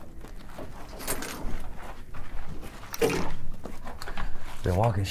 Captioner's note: gear rattling